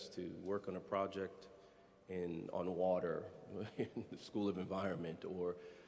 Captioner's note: chuckles